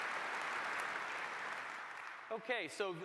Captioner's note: applause